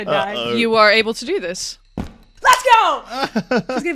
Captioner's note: running stops with a thump; laughs